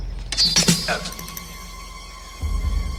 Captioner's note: groans